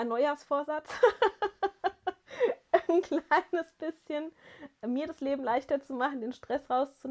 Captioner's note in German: gelächter